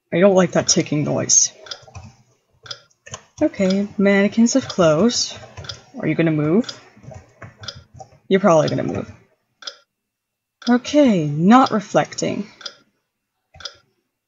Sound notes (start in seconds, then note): none